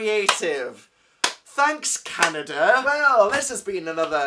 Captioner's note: claps